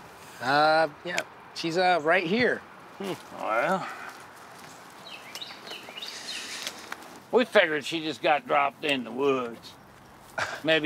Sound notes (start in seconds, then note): 4.9 birds chirping